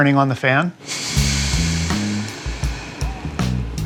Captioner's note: fan whirring